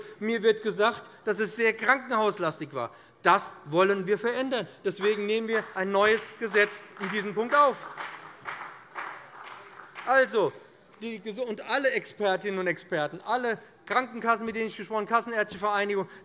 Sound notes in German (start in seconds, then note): 8.0 Beifall bei dem BÜNDNIS 90/DIE GRÜNEN und der CDU